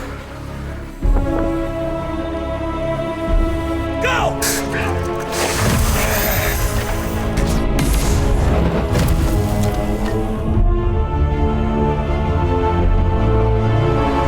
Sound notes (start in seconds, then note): 0.6 intense dramatic music; 7.6 shield clanks